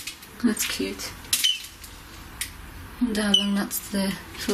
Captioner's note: beep